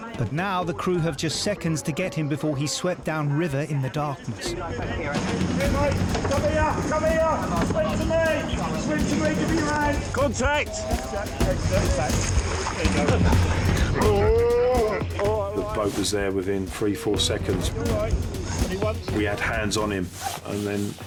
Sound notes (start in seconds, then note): 12.1 casualty groans; 12.1 water splashes